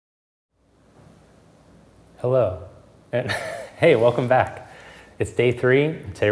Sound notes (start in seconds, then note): 3.2 chuckles